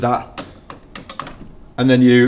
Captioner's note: buttons snapping